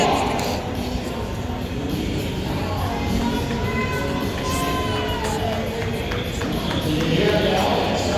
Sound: crowd noise and faint music over the PA System

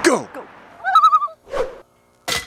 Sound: loon call

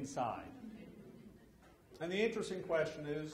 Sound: audience laughs

